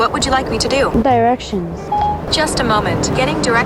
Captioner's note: beep